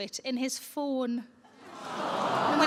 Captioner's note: audience Awww